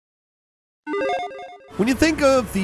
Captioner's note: chirpy chime rings